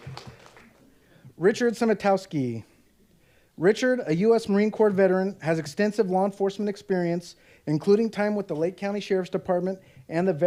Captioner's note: applause